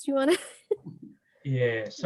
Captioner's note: laughing